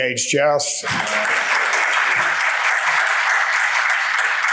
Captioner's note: audience clapping